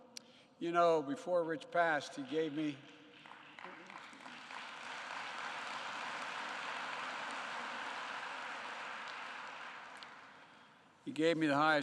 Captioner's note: applause